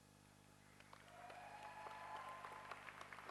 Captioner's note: applause